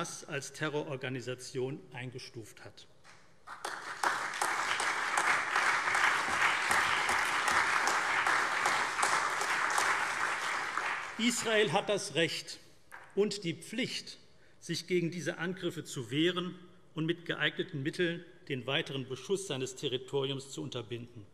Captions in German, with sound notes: als Terrororganisation eingestuft hat. [Beifall CDU, BÜNDNIS 90/DIE GRÜNEN, SPD, AfD und Freie Demokraten] Israel hat das Recht und die Pflicht, sich gegen diese Angriffe zu wehren und mit geeigneten Mitteln den weiteren Beschuss seines Territoriums zu unterbinden.